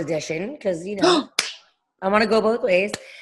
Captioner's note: gasping and clapping with excitement